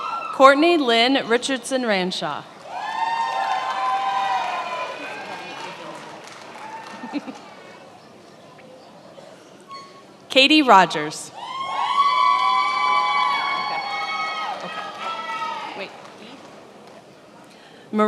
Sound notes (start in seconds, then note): 2.6 attendees applauding; 11.8 attendees applauding